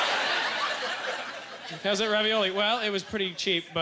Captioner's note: audience laughter